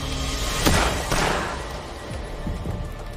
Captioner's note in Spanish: Disparos